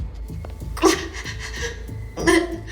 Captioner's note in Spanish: Sollozos